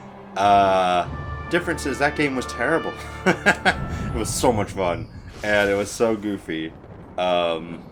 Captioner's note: laugh